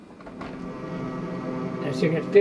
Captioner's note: airplane humming